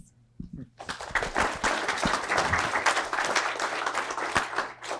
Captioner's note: audience applause